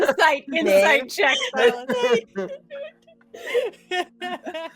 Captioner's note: all laughing